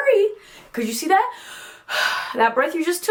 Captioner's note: breathing in